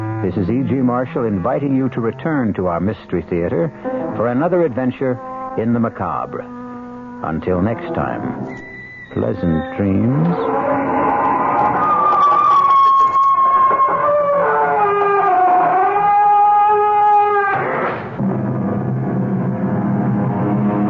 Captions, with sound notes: This is E.G. Marshall inviting you to return to our mystery theater for another adventure in the macabre. Until next time, pleasant dreams. [screaming]